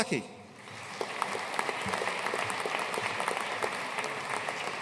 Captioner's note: audience applauding